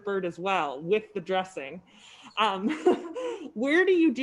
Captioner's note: laughs